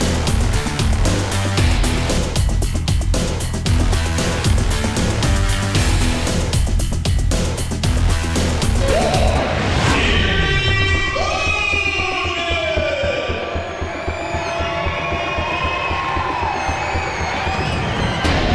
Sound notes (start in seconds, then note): 13.1 crowd goes wild; 16.0 crowdCheering!; 16.7 music and Crowd Continues